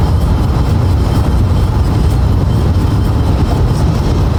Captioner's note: road noise